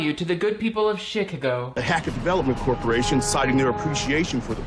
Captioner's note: none